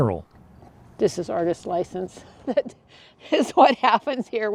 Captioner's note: chuckles